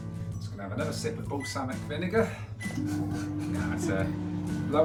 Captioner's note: laughs